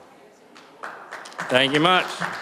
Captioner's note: applause